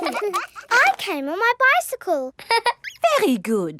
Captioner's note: all laughing; laughs